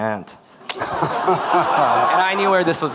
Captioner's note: audience laughing